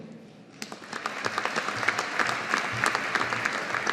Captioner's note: audience applauding